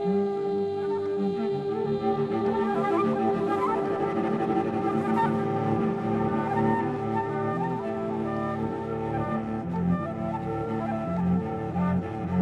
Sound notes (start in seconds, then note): none